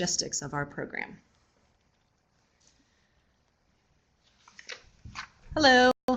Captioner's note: no sound while presenters switch places